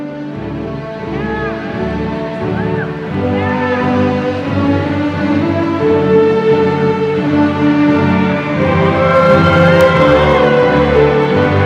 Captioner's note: crowd chattering, playing